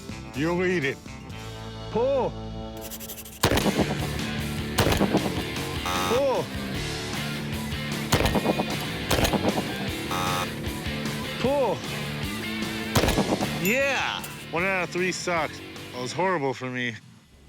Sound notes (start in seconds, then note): 3.4 gun shots; 5.6 buzzer; 8.0 gun shots; 9.1 buzzer; 12.8 gun shots; 13.6 bell ding